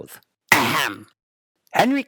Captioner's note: clearing his throat